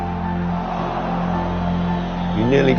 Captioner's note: crowd groaning